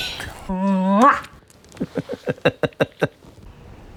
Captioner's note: chuckling